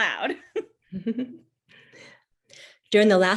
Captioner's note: chuckles